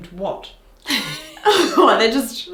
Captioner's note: laughs